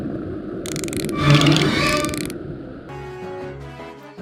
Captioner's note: claws claking